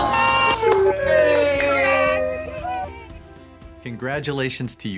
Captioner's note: crowd applauding